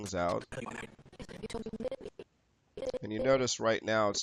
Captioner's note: audio skipping